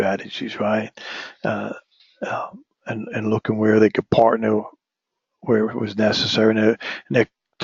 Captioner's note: cough